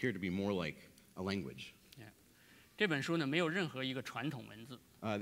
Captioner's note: speaking in Chinese